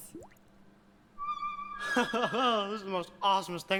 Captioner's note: bright music; laughing